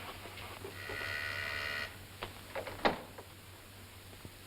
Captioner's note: doorbell buzzes